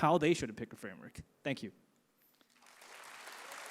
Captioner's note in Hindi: तालियां